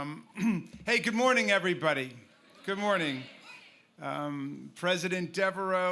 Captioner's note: cheers